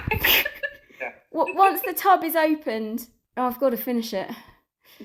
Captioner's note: laughter